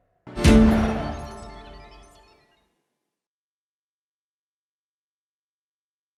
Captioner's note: digital chiming and blipping